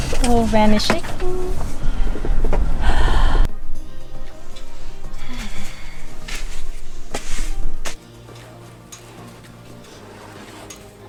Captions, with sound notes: the whole van is shaking *deep sigh* *small sigh*